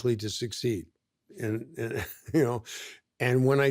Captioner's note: chuckles